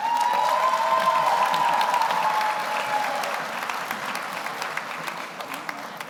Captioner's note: audience cheers; audience applauds